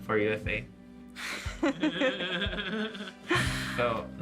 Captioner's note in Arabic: كلاهما يضحك